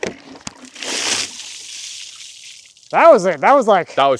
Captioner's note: water splashing